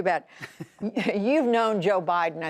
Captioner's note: laughter